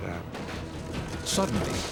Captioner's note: debris clatters